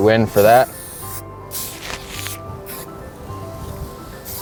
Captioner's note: aerosol spraying